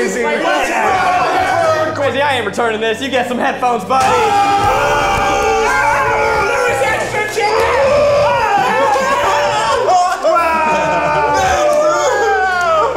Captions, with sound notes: - Kwesi, I ain't returning this. You get some headphones, buddy. (all hollering) - (shouting) There was extra chicken! (everyone screaming)